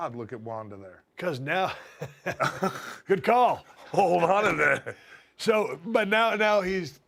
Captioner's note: laugh